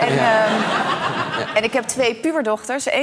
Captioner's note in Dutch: gelach